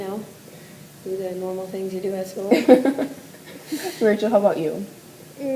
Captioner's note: laughter